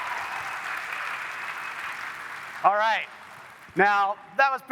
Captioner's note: applause